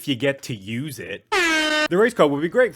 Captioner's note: air Horn